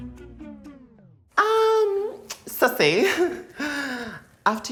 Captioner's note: chuckles dryly